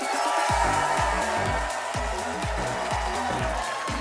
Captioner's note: group cheers